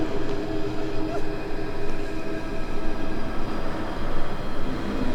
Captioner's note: Kristen whimpering